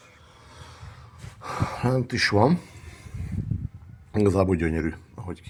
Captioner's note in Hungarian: sóhajtás